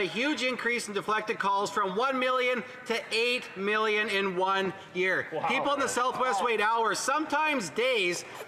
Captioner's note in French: voix de l'interprète